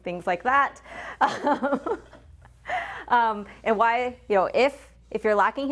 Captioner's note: laughs